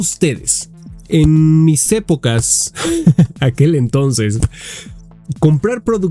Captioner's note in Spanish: risas